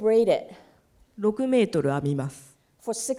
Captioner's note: speaking japanese